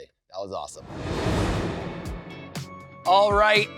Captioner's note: transition whooshes